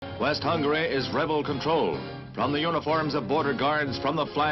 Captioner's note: radio Announcer